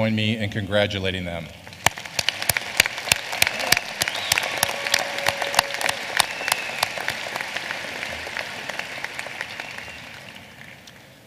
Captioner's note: applause